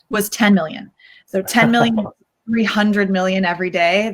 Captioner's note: laughs